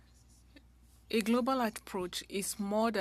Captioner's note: speaking French